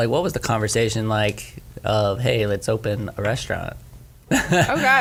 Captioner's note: laughs